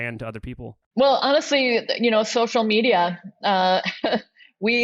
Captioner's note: laughs